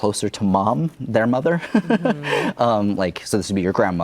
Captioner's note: chuckles